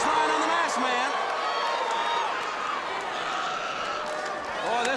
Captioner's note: crowd cheering